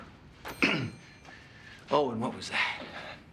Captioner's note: clearing throat